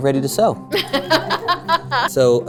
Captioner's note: laughing